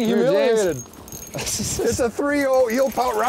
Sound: laughs

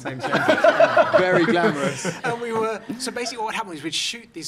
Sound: laughing

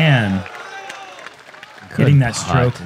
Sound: applause

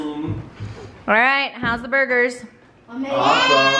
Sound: screams

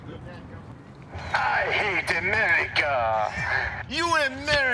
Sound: foreign accent

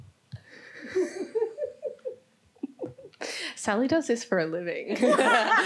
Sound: laughs; all laughing

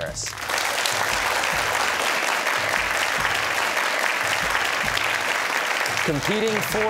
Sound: cheers and applause

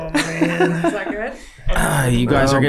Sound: Glenn laughing

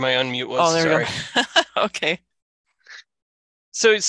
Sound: laughs

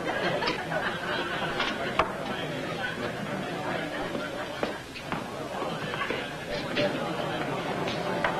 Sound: crowd talking

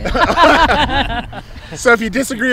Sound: all laughing

